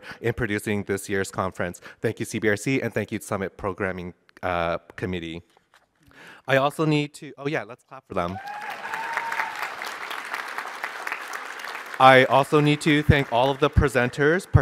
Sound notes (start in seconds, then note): 8.2 applause